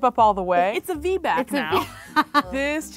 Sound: laughing

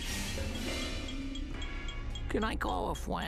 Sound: timer ticking

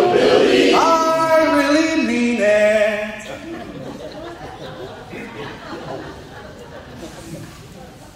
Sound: laughter

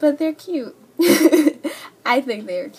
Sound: laugh

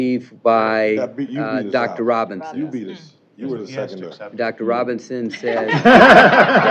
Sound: laughter

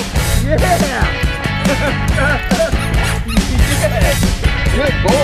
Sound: laughs

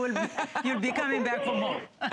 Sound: laughter

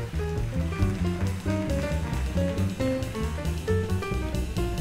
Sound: audience applauds

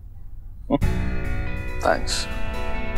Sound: scoffs

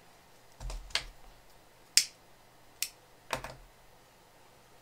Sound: sound of lighter click

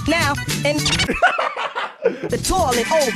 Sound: british laughing

